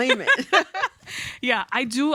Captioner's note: laughs